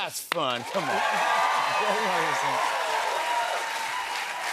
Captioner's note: cheers and applause